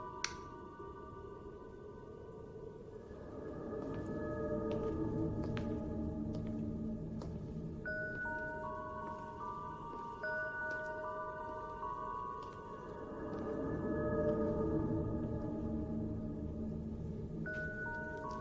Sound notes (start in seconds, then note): 0.2 light switch clicks; 4.3 tense music continues; 9.1 wind continues to howl